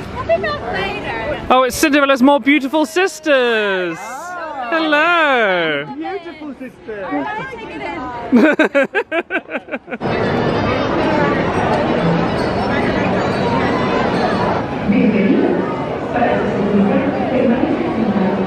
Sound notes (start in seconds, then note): 8.2 chuckling; 11.8 crowd murmuring